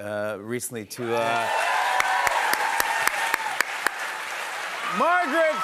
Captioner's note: cheers and applause